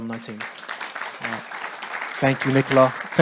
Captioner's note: audience applauding